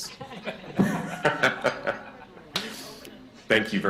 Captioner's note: laughter